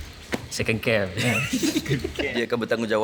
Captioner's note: laugh